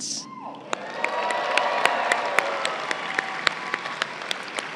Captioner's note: crowd cheering and applauding